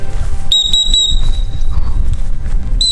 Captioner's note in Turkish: düt düt düt